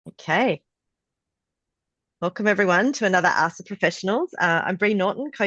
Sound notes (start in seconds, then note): 1.0 Australian accent